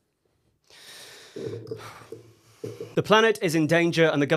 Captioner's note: sighs